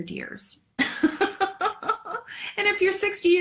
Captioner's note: laughs